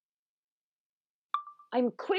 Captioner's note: chime of a phone recorder being turned on